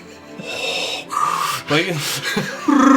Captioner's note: weird breathing